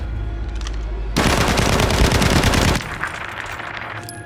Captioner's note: guns firing